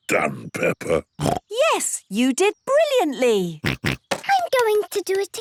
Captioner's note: snorts